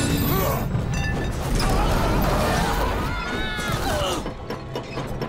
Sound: screaming

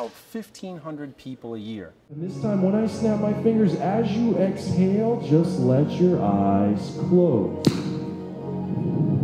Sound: snap

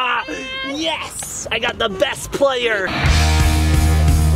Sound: laughs; energetic rock music

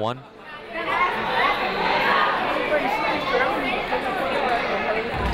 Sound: people talking in the crowd

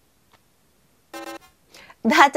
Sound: error sound

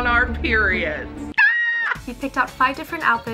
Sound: suspenseful music; screams

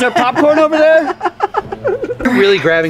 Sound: laughing

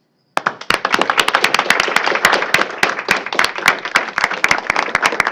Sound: applause

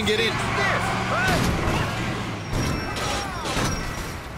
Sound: smashing, pedestrian complains

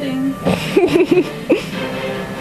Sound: laughs

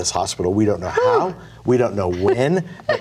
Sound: laughs

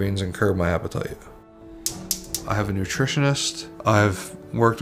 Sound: stove clicking

